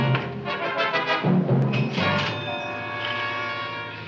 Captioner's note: door rattling